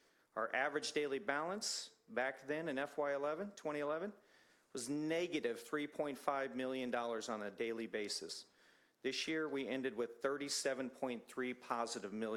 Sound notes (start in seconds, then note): none